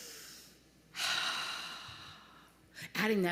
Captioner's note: breathes in deeply; breathes out slowly